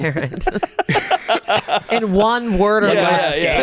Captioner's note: everyone laughs